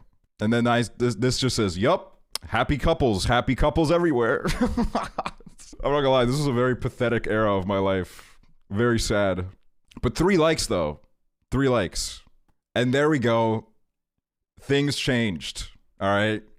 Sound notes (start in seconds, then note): 4.5 laughing